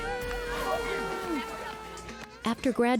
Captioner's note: siren